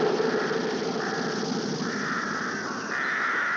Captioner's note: birds squawking